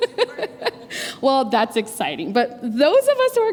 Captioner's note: laughter